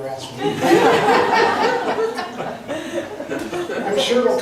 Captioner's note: laughs